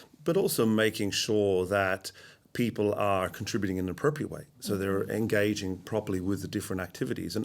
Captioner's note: none